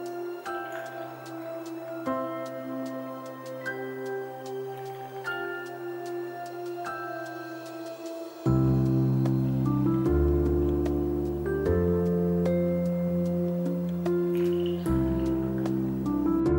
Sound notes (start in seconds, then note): 13.4 kisses